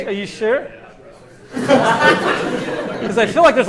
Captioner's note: laughter